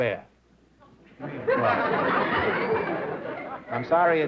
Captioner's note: laughter